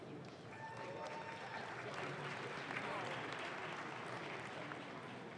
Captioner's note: audience claps